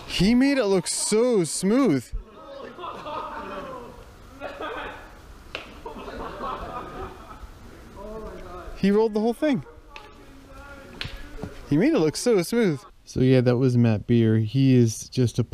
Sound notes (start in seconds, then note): 3.0 group laughing and chatting